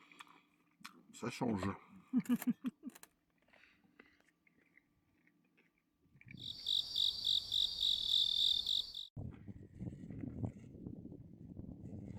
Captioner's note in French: rires